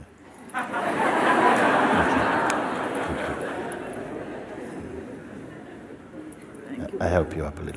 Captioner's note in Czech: smích